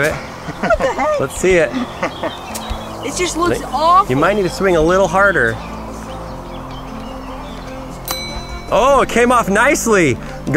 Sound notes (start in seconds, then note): 2.1 laughing; 8.0 bell dings